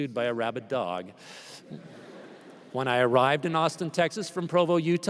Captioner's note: laughter